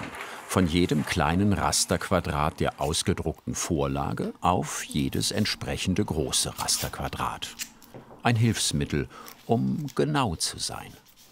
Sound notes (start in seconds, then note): none